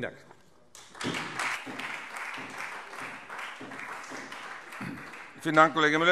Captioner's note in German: Beifall Freie Demokraten und SPD